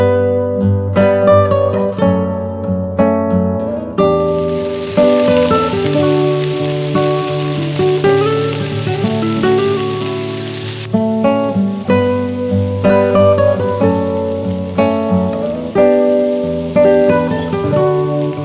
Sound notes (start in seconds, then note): 0.3 fry pan sizzle ends; 5.0 fry pan sizzle begins; 11.1 fry pan sizzle softens; 18.2 low tempo guitar music continues